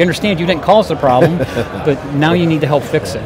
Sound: laughs

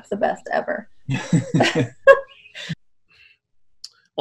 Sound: laughs

